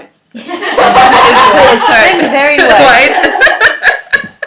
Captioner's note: laughter